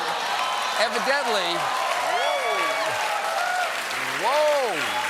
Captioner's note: cheers and applause